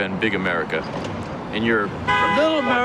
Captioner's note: car horn toots